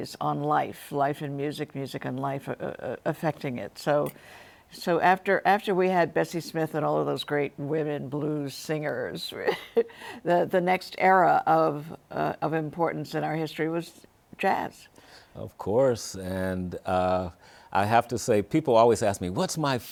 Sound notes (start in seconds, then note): 9.5 chuckles